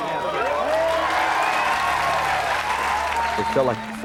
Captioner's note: crowd cheering